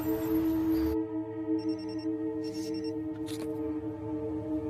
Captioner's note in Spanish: Suena un celular